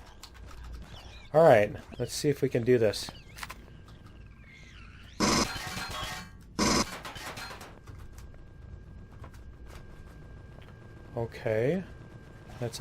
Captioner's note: pinging